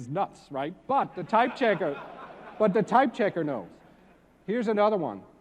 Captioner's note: laugh